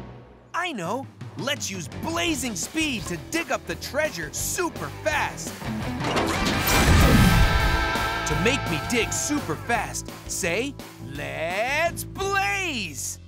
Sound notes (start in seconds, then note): none